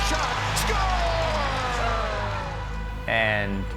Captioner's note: crowd cheering